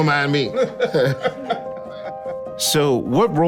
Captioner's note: Kenan and Questlove chuckling